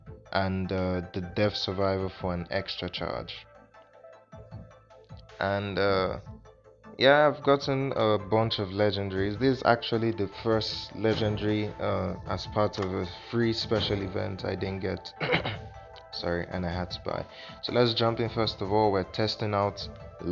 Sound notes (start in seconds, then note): 15.2 clears throat🐺